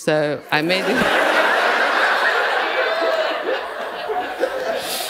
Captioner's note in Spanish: risas